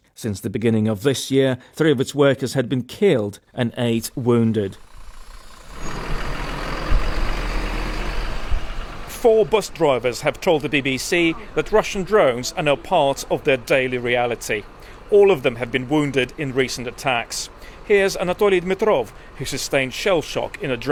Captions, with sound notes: Since the beginning of this year, three of its workers had been killed wounded. [bus engine] Four bus drivers have told the BBC that Russian drones are now part of their daily reality. All of them have been wounded in recent attacks. Here's Anatoliy Dmytrov, who sustained shell shock in a